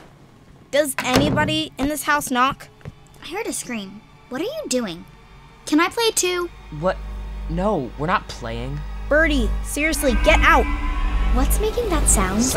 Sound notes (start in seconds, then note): 10.3 buzzing